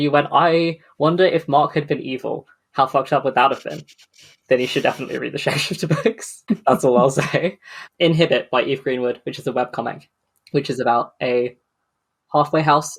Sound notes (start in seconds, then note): 4.4 laughing; 4.4 laughs